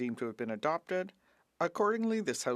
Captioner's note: speaking French